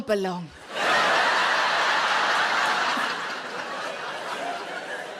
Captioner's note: audience laughing